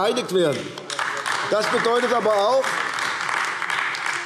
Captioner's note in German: Beifall AfD